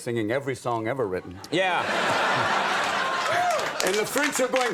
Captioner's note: audience laughs